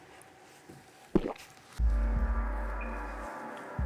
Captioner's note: swallow